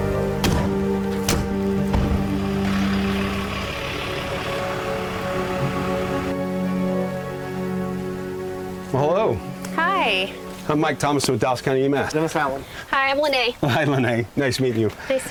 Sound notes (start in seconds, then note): 0.3 ambulance doors slam